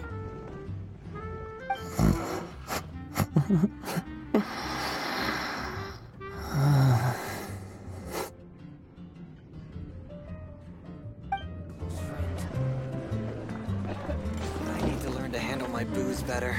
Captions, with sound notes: *SNORES* Hm hehehe *Giggles* *BREATHES* Ah~~~~~~~~ Ῑ ἢὲὲD to learn ᾟαndlἙ my booze better.......